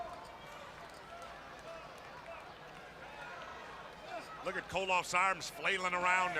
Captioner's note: crowd chatter